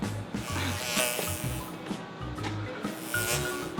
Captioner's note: buzzing